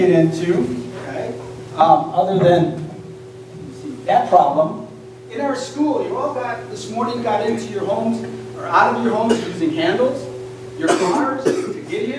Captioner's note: door